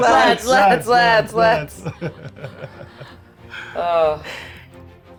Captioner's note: laughing